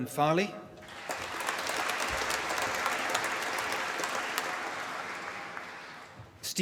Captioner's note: applause